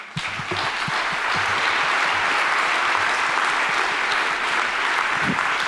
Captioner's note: audience applauding